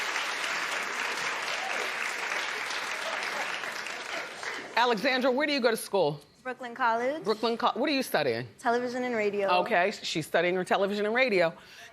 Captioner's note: applause